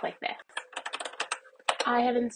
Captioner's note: keyboard types